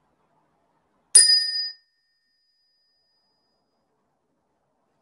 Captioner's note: bell chimes